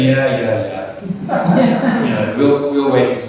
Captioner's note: laughter